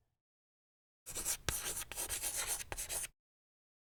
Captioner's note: scribbling noise